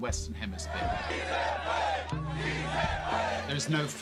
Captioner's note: crowd chanting